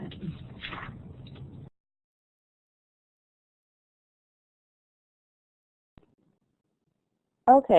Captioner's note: silence